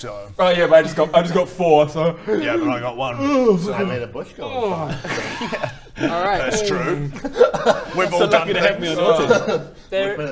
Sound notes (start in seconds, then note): 2.2 yawn